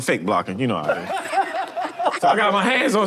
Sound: group laughs

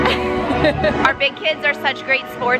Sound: laughing

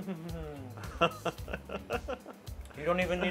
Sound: laughing

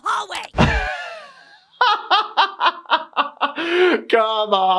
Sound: gasps, then laughs

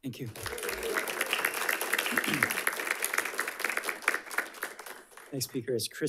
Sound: audience applauding

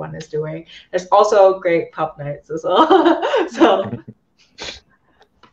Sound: laughs

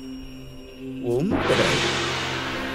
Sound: Dummy chants

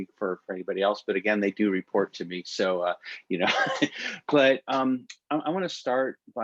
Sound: laughter

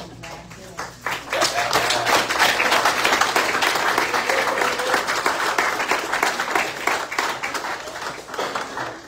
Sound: audience cheers and applauds

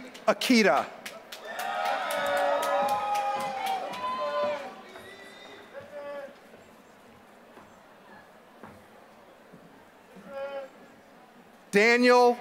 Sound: applause

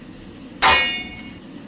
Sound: metal shovel hit

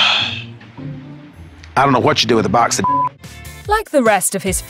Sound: sigh

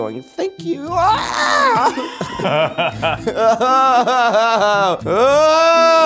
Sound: screeches; laughs; yelling

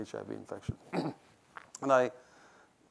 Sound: throat clearing

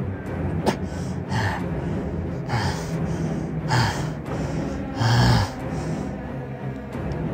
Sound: Darius panting

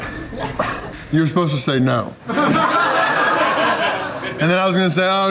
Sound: crowd laughter

